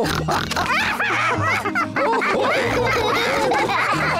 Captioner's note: all laugh